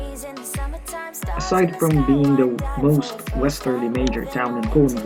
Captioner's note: voice-over